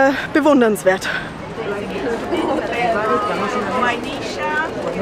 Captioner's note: conversations in the background